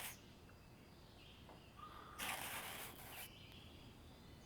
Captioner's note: soft rustling